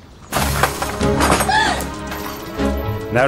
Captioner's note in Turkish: Bağırıyor